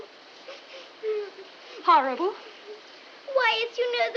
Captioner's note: sniffling